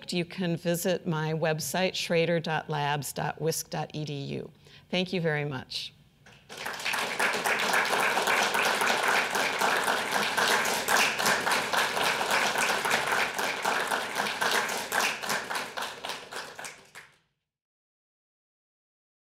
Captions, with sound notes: you can visit my website, schroeder.labs.wisc.edu. Thank you very much. [audience applauding]